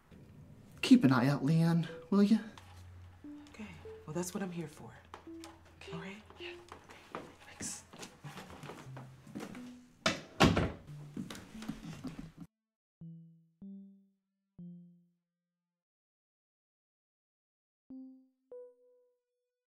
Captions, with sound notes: - Keep an eye out Leanne, will you? - Okay, well that's what I'm here for, all right? - Yeah, thanks. (door closes) (gentle music)